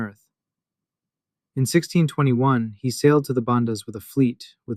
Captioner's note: thoughtful